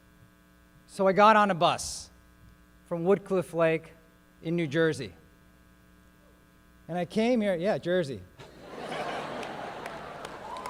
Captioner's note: laughing and applause